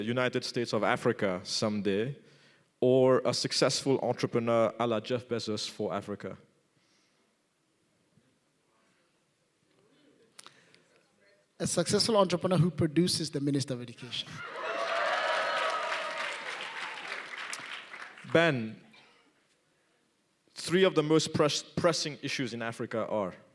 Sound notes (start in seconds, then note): 14.4 applause